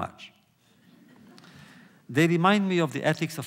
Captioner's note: laughter